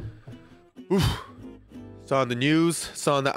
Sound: huffs

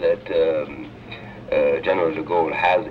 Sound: voice on tape

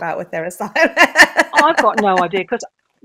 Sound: laughs

